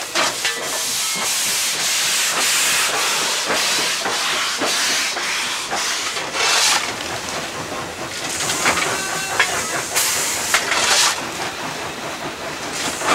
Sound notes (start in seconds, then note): 4.2 steam hissing